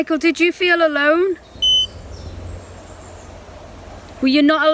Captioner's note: beep